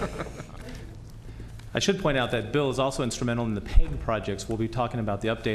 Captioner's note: laughter